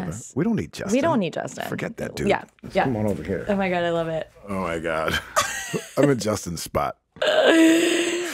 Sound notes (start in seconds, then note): 5.0 laughs